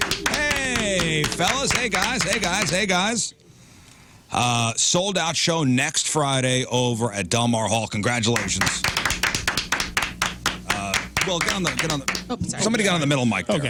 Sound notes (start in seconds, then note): 0.0 clapping; 11.2 clapping